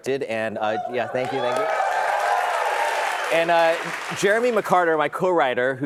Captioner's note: applause